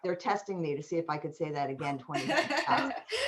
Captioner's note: laughter